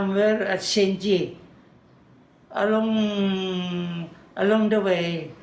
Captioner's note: foreign language